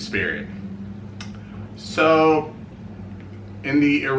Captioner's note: smacks